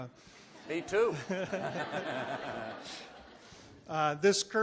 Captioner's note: audience laughs